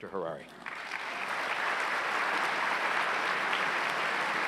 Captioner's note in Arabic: تصفيق الجمهور